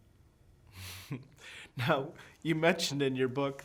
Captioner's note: chuckling